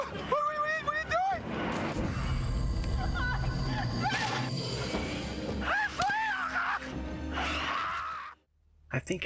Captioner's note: screaming in pain